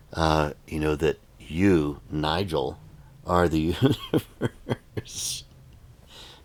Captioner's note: laughs